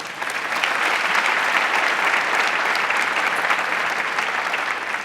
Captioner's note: audience applauding